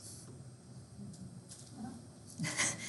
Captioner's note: student speaking faintly; chuckles